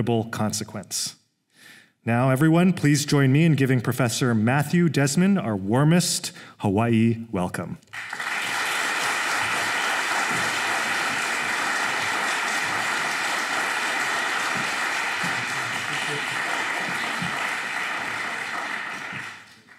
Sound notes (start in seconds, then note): 7.9 applause